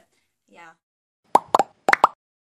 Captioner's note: sound effect: bubbles popping